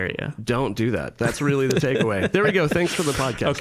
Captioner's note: scattered laughing